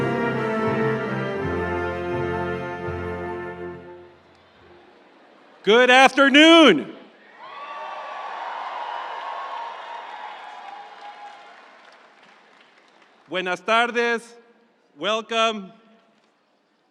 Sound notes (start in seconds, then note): 7.3 audience cheering; 7.4 audience applauding; 13.7 speaking in foreign language